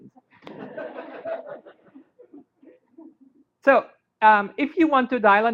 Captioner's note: laughter